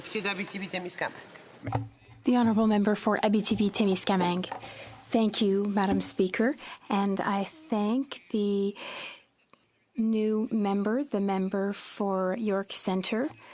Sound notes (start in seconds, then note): 2.7 speaking French